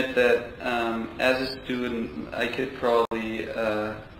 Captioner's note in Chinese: 录音